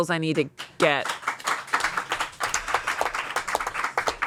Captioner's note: everyone applauds